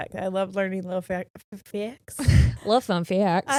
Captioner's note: chuckles